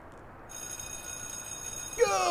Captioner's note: bell rings